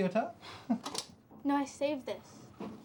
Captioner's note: chuckles